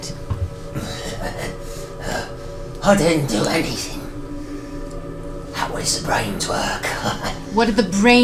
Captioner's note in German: lacht